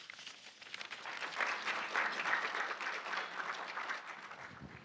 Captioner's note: audience applauding